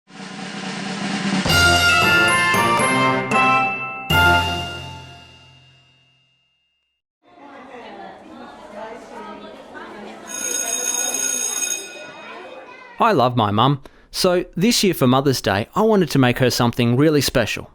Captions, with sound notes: [upbeat music] [bell ringing over student chattering] I love my mum. So, this year for Mother’s Day, I wanted to make her something really special.